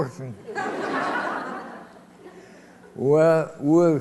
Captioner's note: laughter